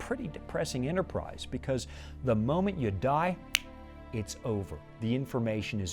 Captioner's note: snapping fingers